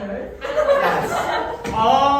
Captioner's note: everyone laughs